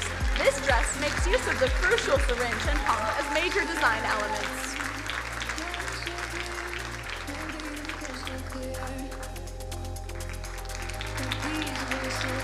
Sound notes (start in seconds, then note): 5.3 crowd cheering drowns out singer